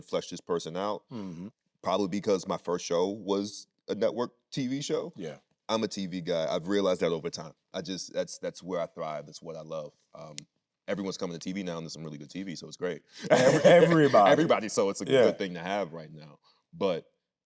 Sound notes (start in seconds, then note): 13.2 laughing